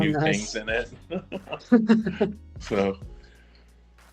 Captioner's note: laughter